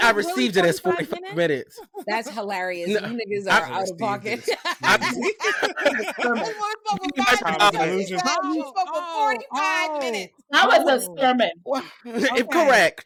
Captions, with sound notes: I received it as 45 minutes. That's hilarious. You niggas are out of pocket. [LAUGHTER] I spoke for 45 minutes. I spoke for 45 minutes. I was a sermon. Correct.